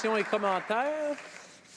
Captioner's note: applause